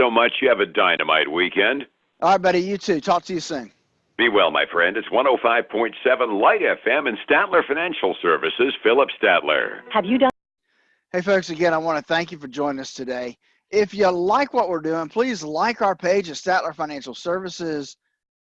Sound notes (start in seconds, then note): 9.4 radio